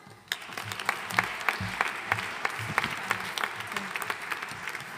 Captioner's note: audience applauding